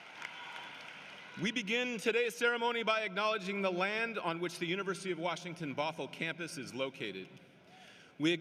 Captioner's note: cheering and applause